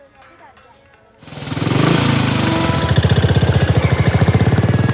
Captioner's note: motor engine revving